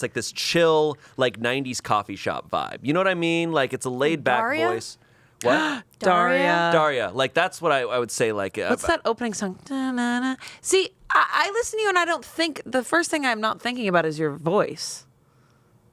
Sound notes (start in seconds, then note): 8.7 vocalizes